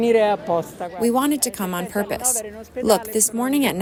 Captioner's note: through translator